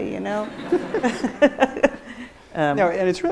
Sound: audience laughs

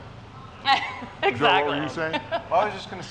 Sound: laughs

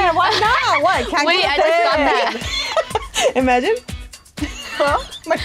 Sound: laughing

